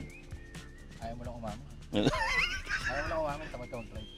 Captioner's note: laughs